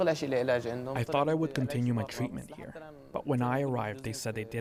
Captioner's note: speaking alternate language